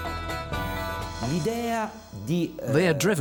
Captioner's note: man speaking Italian